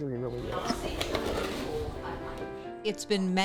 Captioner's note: people chattering indistinctly